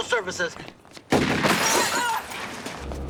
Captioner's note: firing and glass shattering